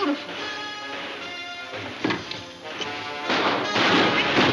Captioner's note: guns firing